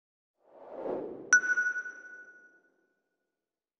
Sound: logo whooshes into view, stopping with a sonar-like 'ping'

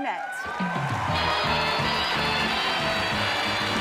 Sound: cheering

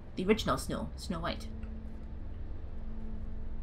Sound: none

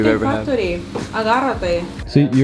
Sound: speaking foreign lanuguage

